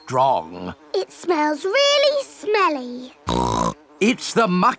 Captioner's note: snorts